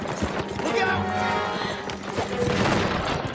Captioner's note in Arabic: يلهث